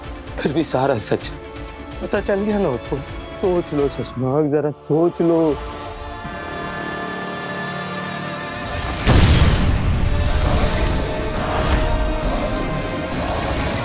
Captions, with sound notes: And he still knows the truth. Think about it, Shashmaag! [explosion]